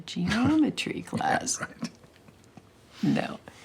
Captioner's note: chuckles